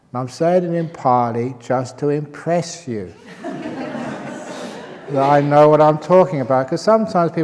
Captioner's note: laughter